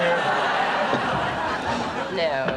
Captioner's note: audience laughs